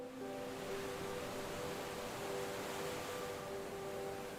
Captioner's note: water sloshing